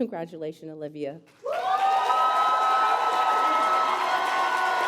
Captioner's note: applause